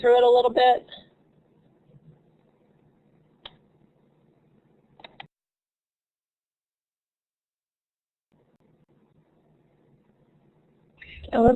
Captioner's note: silence